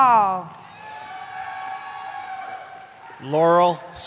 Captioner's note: cheering